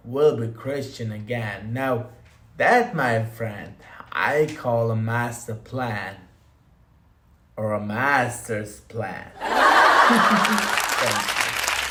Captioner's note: applause